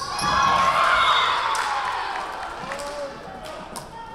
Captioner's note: whistle blowing